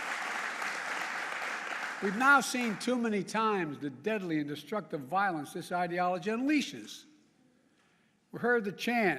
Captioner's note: applause